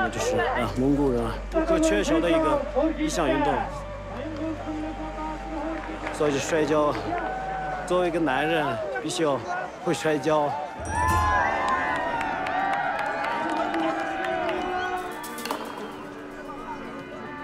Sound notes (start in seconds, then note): 11.7 crowd yelling, applauding